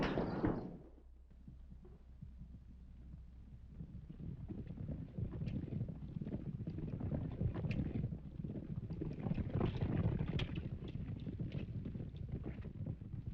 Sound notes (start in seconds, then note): 1.4 horses galloping